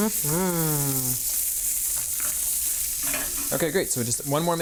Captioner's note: skillet sizzling